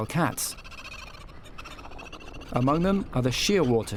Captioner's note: bird clucking